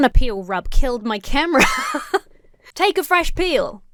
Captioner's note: laughs